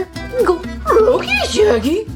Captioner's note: Shaggy gulps